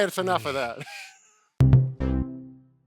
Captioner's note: laughter